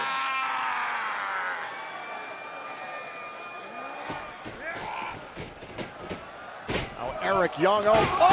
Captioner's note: crowd cheering